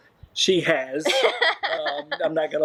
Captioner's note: laughing